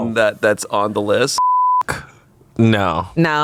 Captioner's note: beep